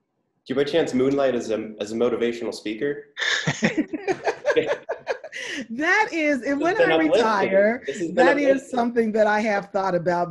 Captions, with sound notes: - Do you by chance moonlight as a motivational speaker? (laughing) - That is, and when I retire, that is something that I have thought about